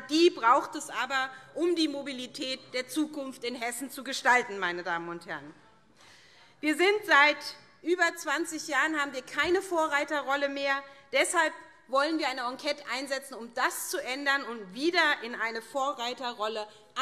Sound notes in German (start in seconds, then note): none